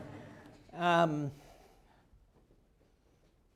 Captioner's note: laughter